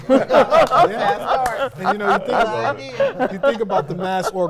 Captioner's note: all laughing